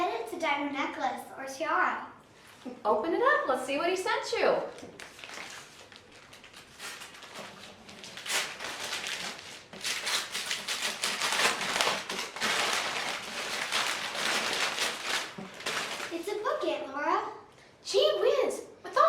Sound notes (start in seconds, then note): 4.7 paper tearing